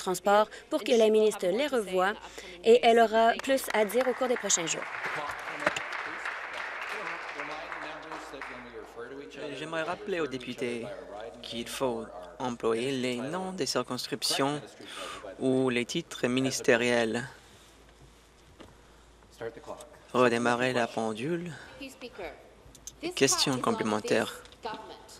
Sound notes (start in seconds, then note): 9.7 applause